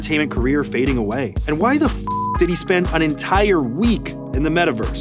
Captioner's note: beep